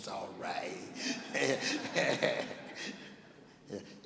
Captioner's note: laughing